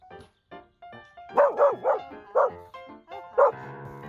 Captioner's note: borking, bork bork